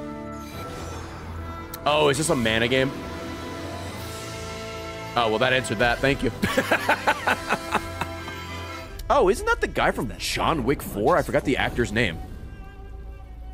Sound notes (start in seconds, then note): 6.4 laughs